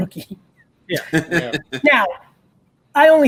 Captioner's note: laughs